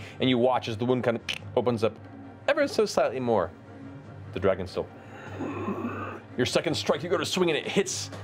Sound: inhales

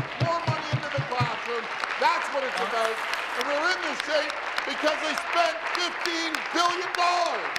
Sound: applause

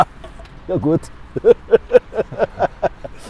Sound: laughter

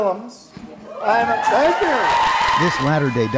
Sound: cheering and applause

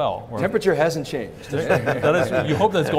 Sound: laughs

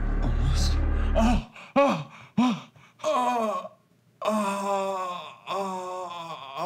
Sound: ominous music; man groaning

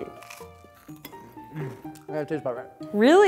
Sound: biting toast

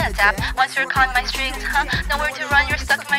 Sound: haha

